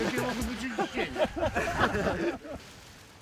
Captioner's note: laughs